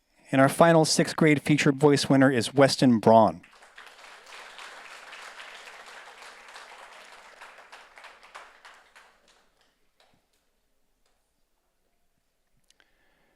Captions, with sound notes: And our final sixth grade feature voice winner is Weston Braun. (audience applauds)